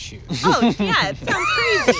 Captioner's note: laughter